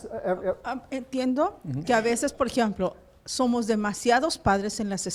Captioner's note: foreign language